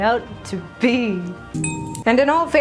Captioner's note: ding!